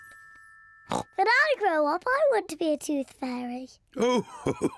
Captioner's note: oinks